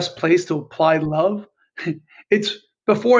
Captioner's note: chuckles